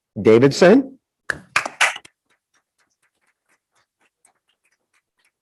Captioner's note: group applauding